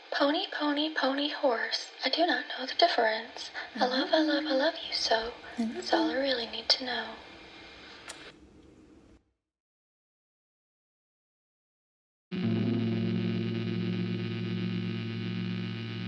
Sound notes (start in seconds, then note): 8.0 kiss